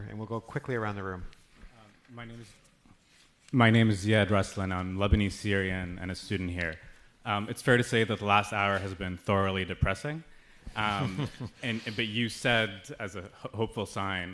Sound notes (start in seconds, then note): 10.8 laughing